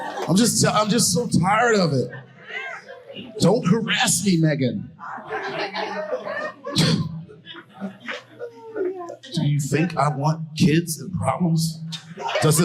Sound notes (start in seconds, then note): 6.5 audience laughing